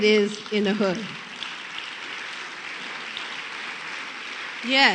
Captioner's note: applause